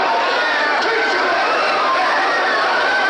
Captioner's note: shouting